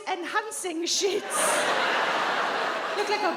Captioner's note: audience laughs